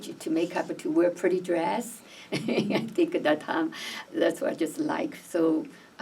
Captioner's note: laughs